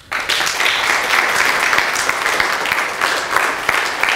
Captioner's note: applause